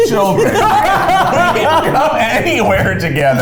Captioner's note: laughing